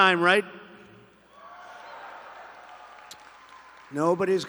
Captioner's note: laughter and applause